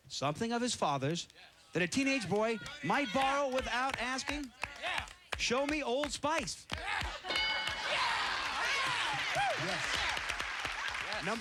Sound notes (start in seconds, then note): 6.7 cheers and applause